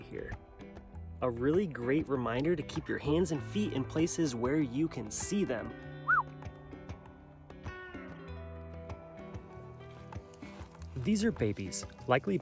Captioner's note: whistles